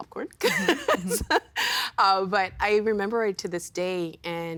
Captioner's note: laughing